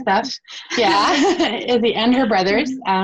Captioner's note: laughs